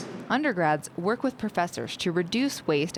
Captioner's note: voiceover